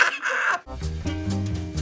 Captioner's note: Adam laughs; jazz music